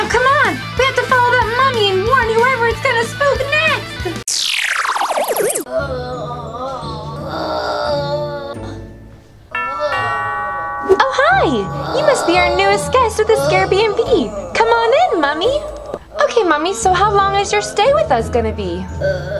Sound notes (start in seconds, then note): 5.7 moaning; 5.8 suspenseful music; 9.5 doorbell rings; 18.9 moaning